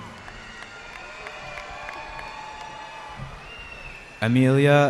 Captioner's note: cheering